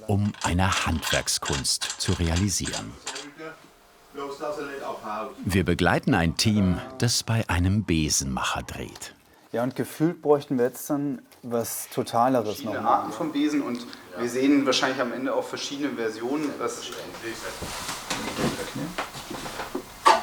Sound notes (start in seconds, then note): 2.8 quiet background conversation